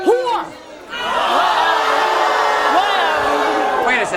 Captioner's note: audience booing; audience yelling